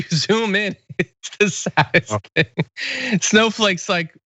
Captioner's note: laugh